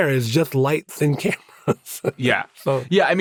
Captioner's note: laughs